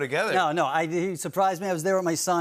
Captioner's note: none